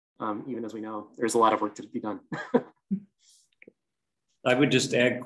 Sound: laughs

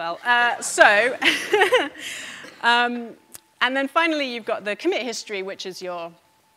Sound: laughs

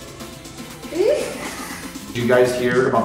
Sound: exclaims in confusion

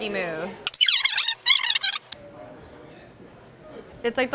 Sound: fast forward squeaking

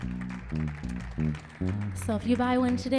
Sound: audience cheering

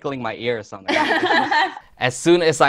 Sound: laughing

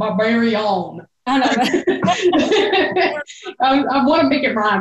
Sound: belly laughing

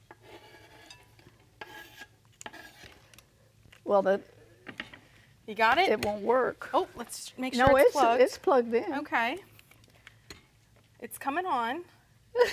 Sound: stirring sound

